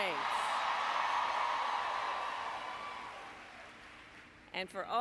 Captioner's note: applause